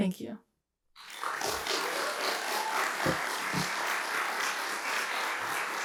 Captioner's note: applause